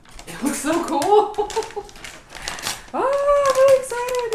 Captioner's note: laughing